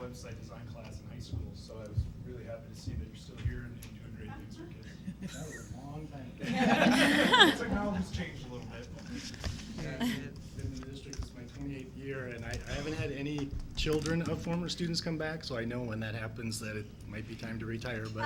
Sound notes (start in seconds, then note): 6.4 laughter